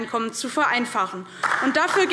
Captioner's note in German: Beifall DIE LINKE